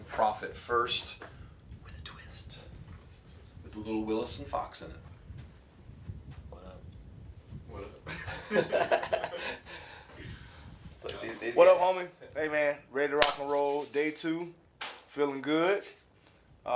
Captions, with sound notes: Profit first with a twist with a little Willis and Fox in it. - What up? (laughter) - What up, homie! Hey, man. Ready to (claps hands) rock and roll. Day two. Feelin' good.